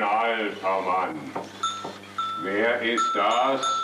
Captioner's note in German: Klingeln